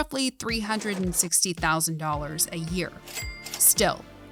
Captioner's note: cash register chiming